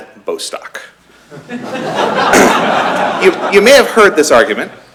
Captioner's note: laughter